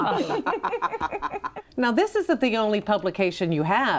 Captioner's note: group chuckles